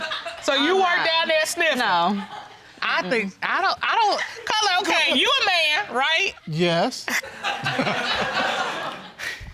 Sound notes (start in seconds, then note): 7.0 chuckles